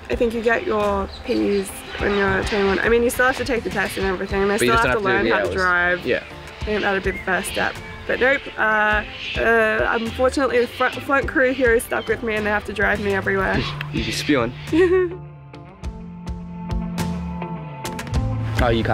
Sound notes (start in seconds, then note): 14.7 laughter; 15.7 upbeat music